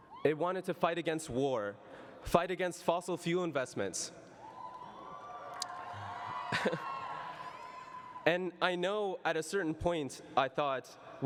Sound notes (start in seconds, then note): 0.0 cheers; 4.4 cheering